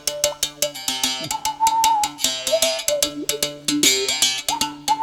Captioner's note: melodic whistling